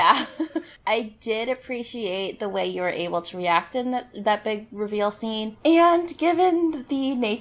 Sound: laughs

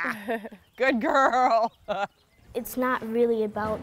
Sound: laughing; chuckling

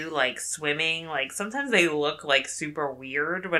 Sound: none

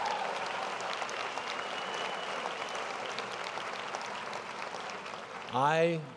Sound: applause & cheers

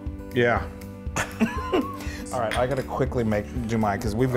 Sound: laugh

